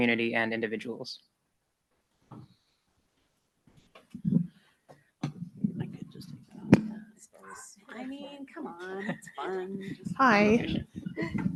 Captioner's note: silence and background noise